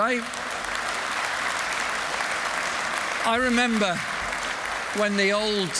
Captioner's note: applause